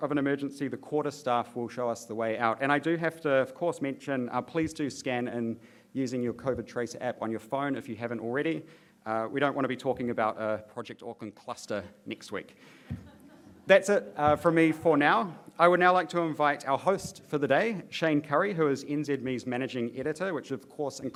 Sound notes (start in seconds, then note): 12.9 laughter